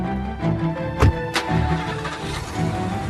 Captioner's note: car engine turns over